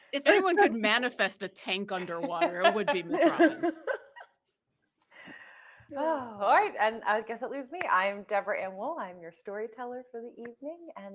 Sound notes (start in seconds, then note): 2.0 group laughing